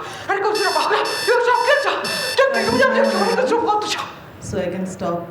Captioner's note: alarm buzzing